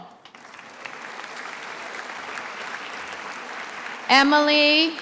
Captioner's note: attendees applauding